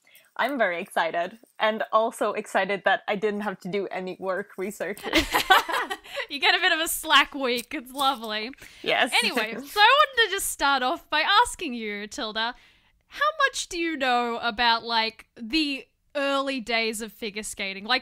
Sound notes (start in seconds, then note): 5.0 laughter